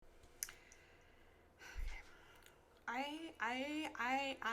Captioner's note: deep breath